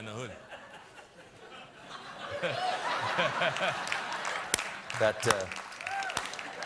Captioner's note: laughter; applause